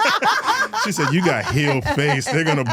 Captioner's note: all laughing